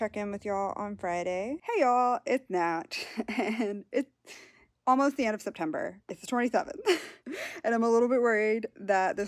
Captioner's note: laughs